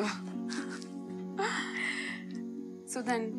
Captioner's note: Both chuckle